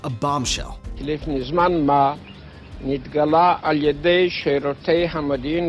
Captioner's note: speaking Hebrew